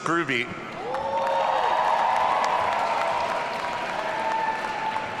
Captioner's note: audience cheering